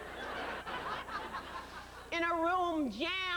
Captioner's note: laughter